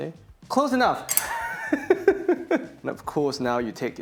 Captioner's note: laughs